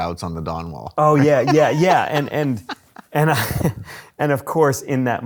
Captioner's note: laughs